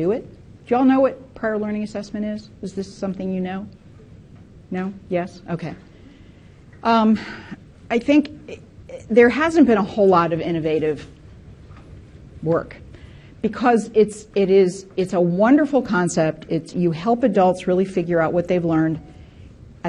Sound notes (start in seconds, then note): none